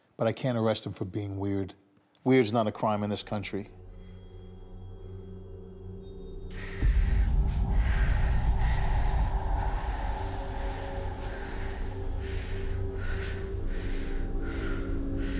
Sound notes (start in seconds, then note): 4.5 dramatic music; 7.0 Maggie exhaling; 11.3 dramatic music